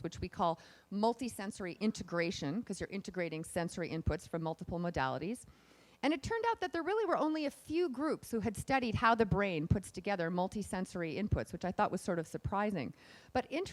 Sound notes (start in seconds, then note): none